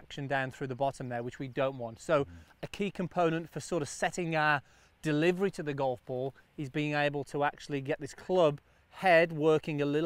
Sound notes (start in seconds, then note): none